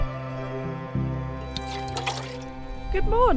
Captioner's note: slosh